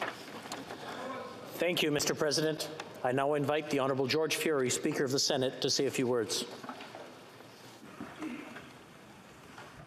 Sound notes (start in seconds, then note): 1.8 chanting